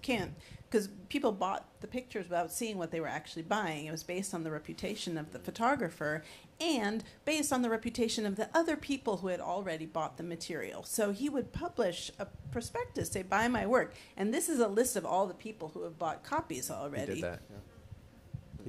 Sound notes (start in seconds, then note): none